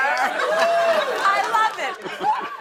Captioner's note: laughter